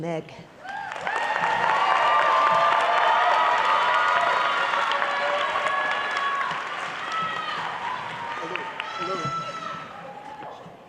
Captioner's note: applause